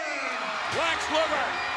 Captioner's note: audience cheers